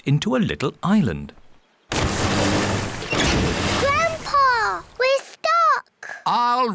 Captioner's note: rumbling